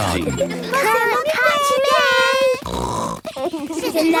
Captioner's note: snort